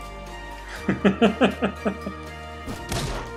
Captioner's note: laughs